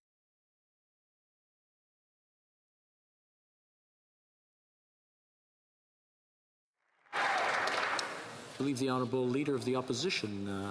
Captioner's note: applause